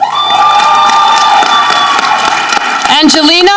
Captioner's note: audience cheering